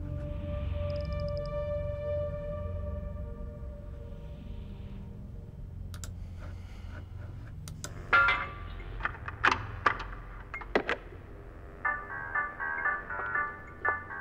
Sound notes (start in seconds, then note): 8.1 metal dropping; 9.1 tape recorder playing; 11.8 playful music